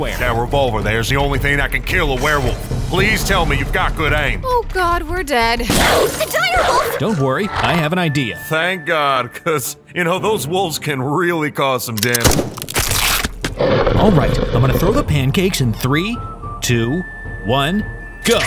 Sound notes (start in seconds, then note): 12.2 gunshot